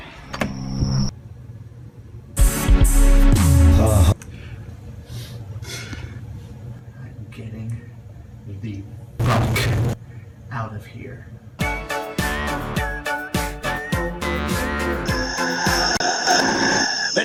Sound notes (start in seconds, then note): 5.0 sniff; 5.6 exhale